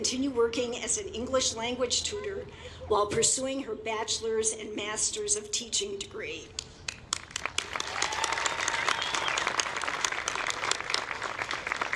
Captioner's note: applause